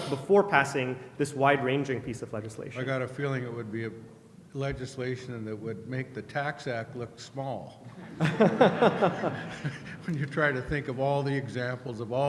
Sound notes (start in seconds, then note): 2.9 voiceover; 7.8 laughter